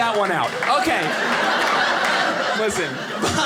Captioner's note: audience laughing